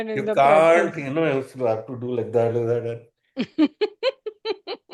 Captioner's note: laughter